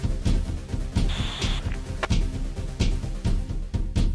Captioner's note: sound of radio buzzing